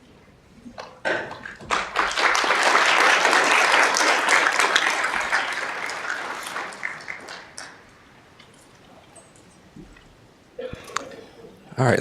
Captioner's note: applause